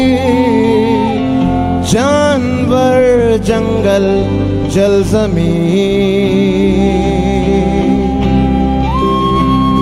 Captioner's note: cheering/Applause